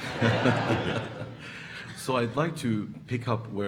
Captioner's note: audience laughing